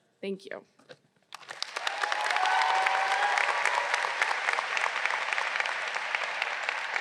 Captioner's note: all applauding; graduates cheers